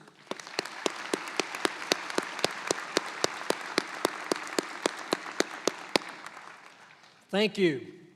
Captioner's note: applause